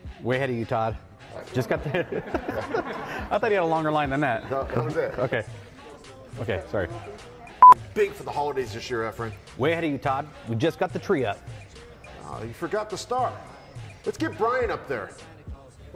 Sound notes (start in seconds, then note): 1.6 all laughing